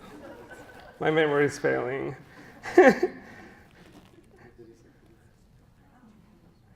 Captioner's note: audience laughs; chuckles